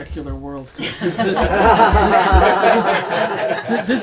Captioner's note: everyone laughs